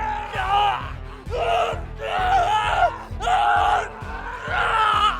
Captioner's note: person growling; person shouting